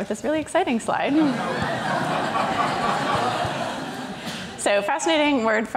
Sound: crowd laughs

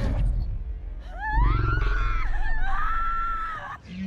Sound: woman screams hysterically

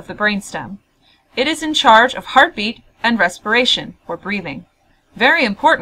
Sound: breathing

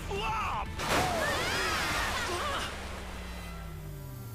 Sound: screaming

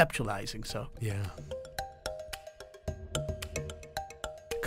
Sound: voiceover

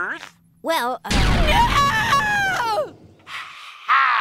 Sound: wailing

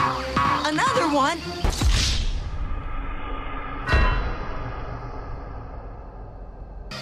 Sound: A sound effect from GTA

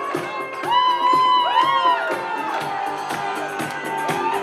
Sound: crowd whoops and claps

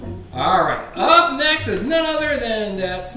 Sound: voiceover

